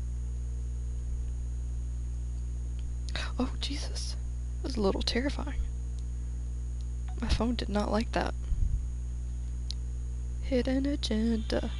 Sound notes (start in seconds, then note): 3.0 whispers